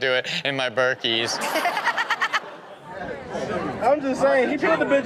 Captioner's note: Chanel laughs